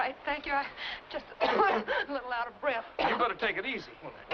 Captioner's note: coughing